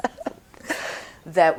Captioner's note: laughing